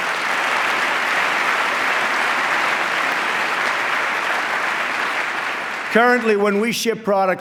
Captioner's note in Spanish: aplauso